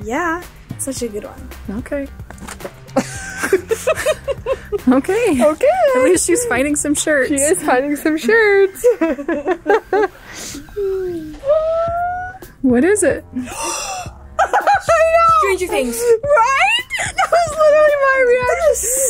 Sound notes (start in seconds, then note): 2.3 shirt rustles; 2.9 group laughs; 8.0 laughs; 10.7 squeals; 13.3 gasps; 14.3 laughs